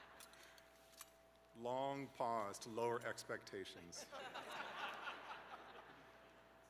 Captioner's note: laughter